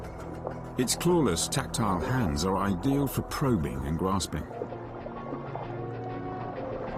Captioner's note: dramatic music; water gurgling